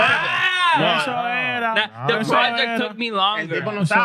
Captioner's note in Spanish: Hablando en idioma extranjero